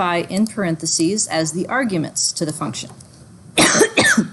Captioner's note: coughs